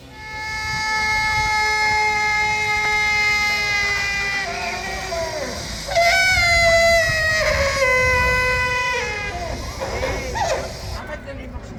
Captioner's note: sound of mechanical elephant trumpeting